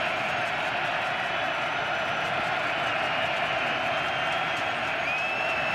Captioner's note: crowd cheering